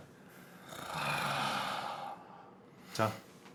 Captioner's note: sigh